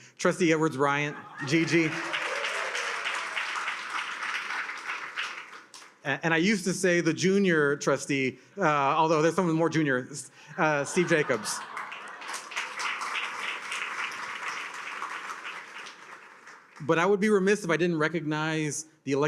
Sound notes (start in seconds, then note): 1.1 attendees cheer and applaud; 10.6 attendees laugh; 10.7 attendees applaud